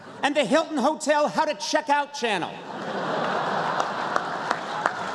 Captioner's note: laughter